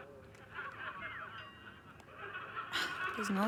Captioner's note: laughter coming from TV